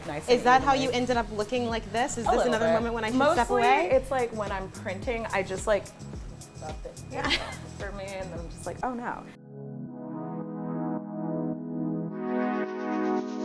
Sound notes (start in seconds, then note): 7.1 laughs; 9.9 rhythmic electronic music